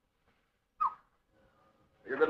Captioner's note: whistles